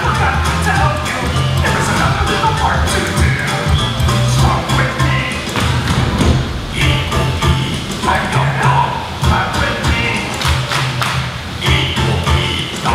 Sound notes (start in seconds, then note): 5.1 stomping; 10.3 clapping